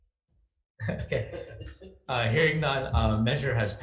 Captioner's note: senator speaks faintly; chuckles